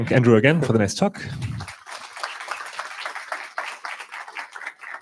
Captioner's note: applause